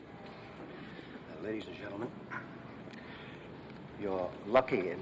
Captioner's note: clears throat